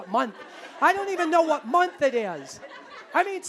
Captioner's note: audience laughing